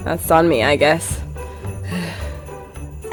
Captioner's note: sigh